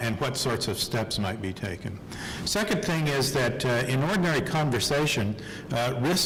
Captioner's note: none